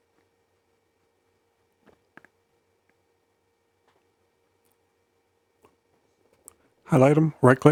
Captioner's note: silence